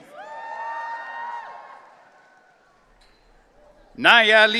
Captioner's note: audience cheering